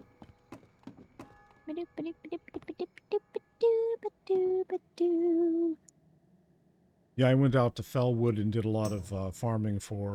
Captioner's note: humming